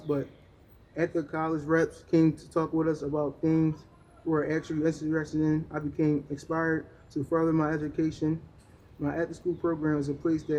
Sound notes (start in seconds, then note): none